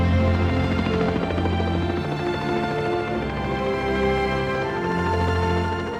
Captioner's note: upbeat music; helicopter engine roaring